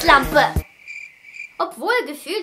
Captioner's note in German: Grillenzirpen